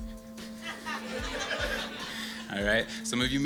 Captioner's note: audience laughs